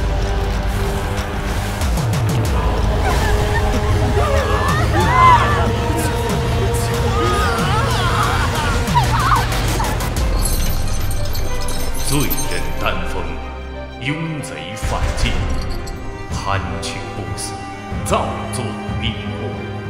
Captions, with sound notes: *scream* Fire! There's on fire! Dan Feng the sinner, embracing immorality and breaking the ban, thieving immortality and inciting riot.